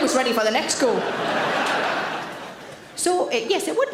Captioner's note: audience laughs